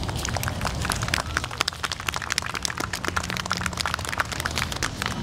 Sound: audience applauding

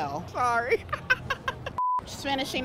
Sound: laughing

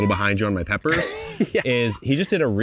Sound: laughing

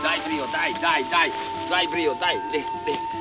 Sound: dog digging into dirt

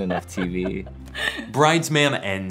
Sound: laughter

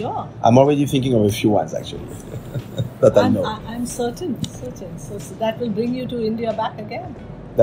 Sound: laughs

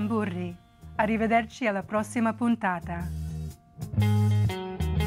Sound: speaking in foreign language

